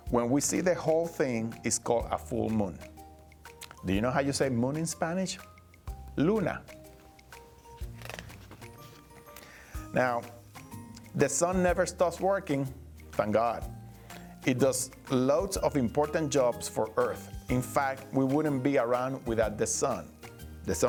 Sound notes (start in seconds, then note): 6.2 speaking Spanish